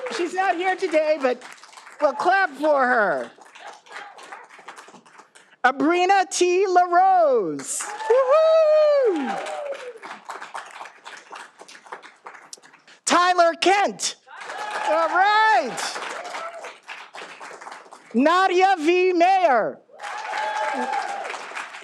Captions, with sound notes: She's not here today, but clap for her Abrina T. La Rose. (all applauding) Tyler Kent. (all applauding) Nadia V. Mayer. (all applauding)